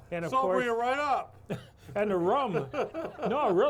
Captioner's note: everyone laughs